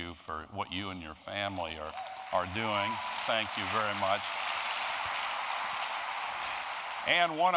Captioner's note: applause